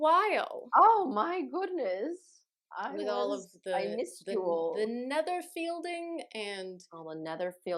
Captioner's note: fancy voice